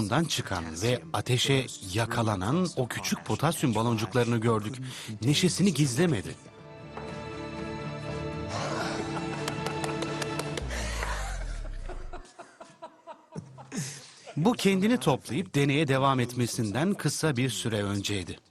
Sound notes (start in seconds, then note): 8.4 laughing